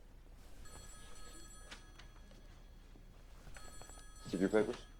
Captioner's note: phone ringing